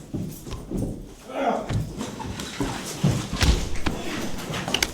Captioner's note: grunting